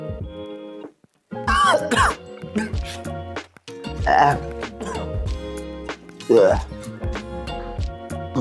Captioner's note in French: Toussements de dégoût